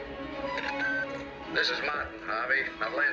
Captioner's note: machine beeps